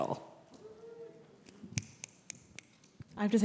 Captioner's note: snapping Fingers